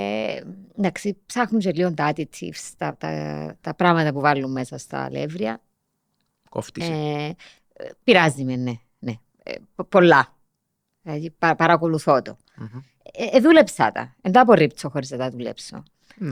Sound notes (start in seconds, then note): none